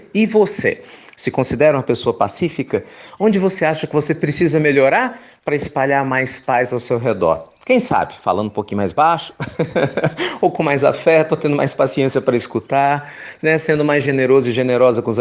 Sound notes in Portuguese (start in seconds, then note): 9.3 risos